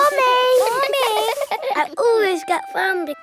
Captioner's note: all giggling